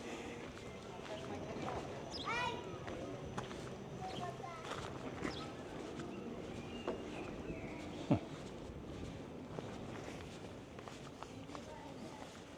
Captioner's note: children chattering